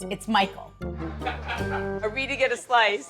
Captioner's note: people laughing